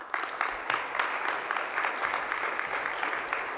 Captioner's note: applause